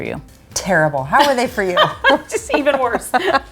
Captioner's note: laughs; chuckles